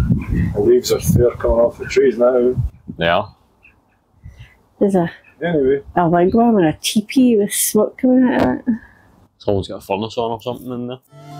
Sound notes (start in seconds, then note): 4.5 birds chirping